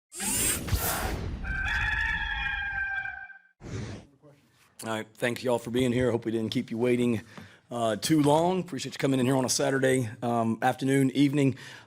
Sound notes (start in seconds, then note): 0.2 logo whooshing; 1.4 rooster crowing